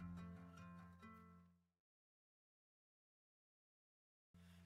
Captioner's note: silence